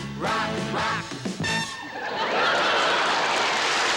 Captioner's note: applause